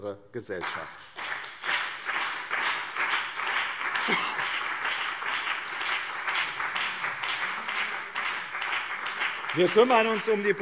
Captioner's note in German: Beifall BÜNDNIS 90/DIE GRÜNEN und CDU